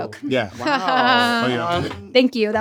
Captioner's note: laughs